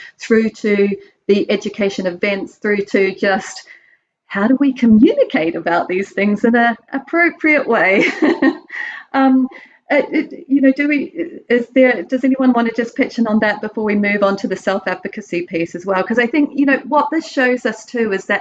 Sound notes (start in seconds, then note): 8.0 laughs softly